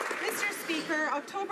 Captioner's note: applause